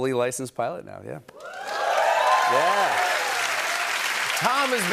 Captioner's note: cheers and applause